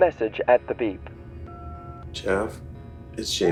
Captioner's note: phone beeps